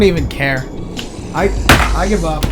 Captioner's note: slams controller